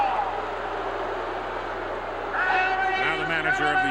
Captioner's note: crowd boos